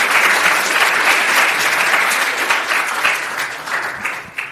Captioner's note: audience clapping